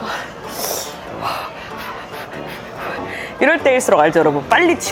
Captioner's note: overbreathing